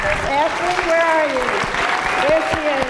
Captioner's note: applause, cheers